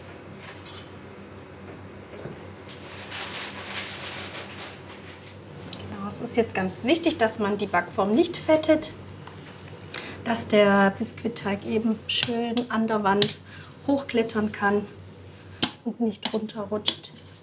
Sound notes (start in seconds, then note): 2.8 rustling